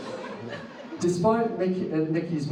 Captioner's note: audience laughs